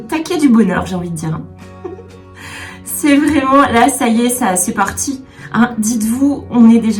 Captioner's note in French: rires